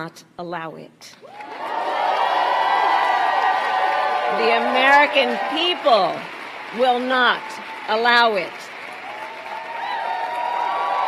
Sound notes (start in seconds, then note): 6.7 applause